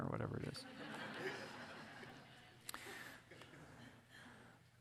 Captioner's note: audience laughing